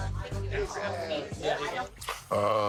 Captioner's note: patrons chatting